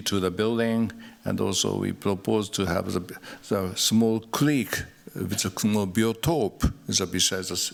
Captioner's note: non-english